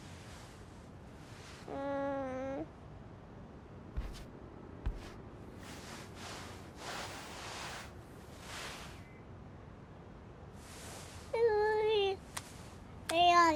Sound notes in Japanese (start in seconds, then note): 1.7 泣き声